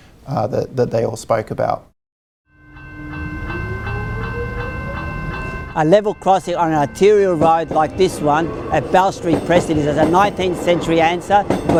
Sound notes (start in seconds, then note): 2.6 level crossing bell rings